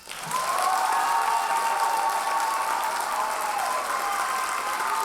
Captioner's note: audience cheers and applauds